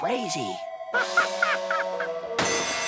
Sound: laughing

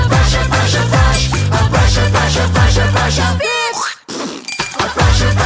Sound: spitting sound

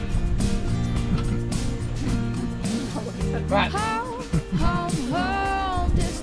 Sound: chatting

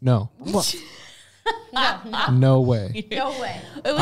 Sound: laughing

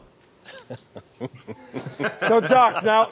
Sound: everyone laughing

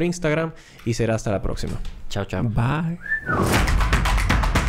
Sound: whistle

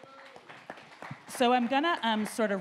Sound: audience applauding

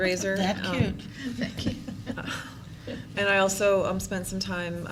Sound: laughter

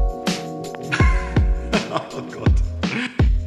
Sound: laughing

